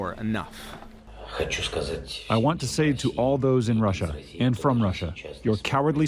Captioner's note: through translator